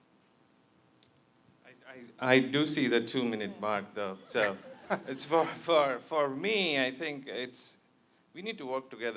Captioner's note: laughter